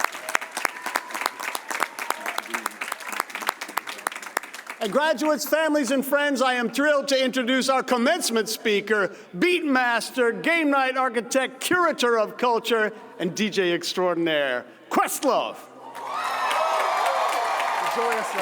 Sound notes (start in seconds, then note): 11.2 applause